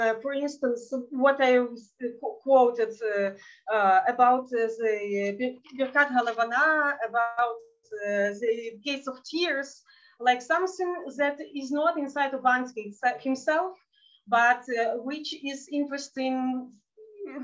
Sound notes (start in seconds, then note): 5.2 speaking in Yiddish